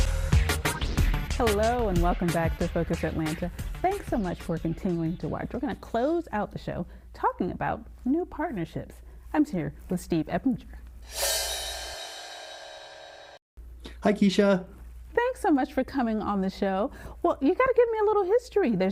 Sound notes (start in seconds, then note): 11.0 screen whooshing